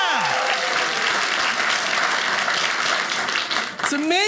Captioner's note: audience applauding